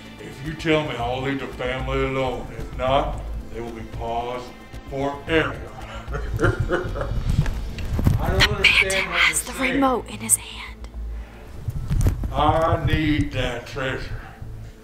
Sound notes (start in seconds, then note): 5.8 evil laughing; 8.5 whispers